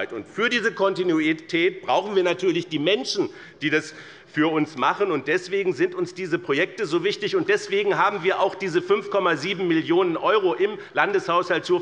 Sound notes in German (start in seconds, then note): none